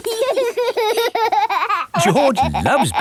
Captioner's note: laughing